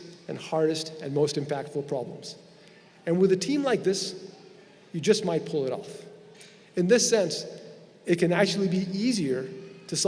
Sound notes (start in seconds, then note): none